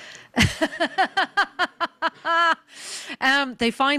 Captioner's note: laughing